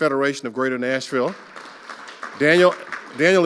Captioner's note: audience applauding